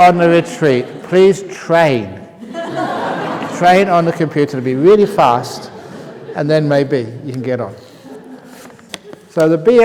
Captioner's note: laughter; laughter